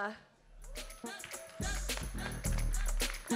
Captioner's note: applause